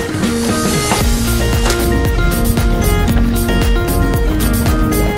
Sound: water splashing

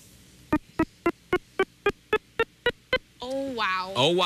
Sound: beeping

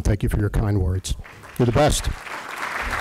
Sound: applause

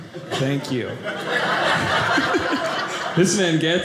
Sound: audience laughing

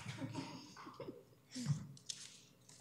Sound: laughs

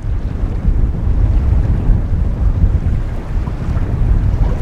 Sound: wind blowing

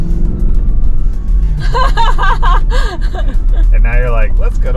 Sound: laughing

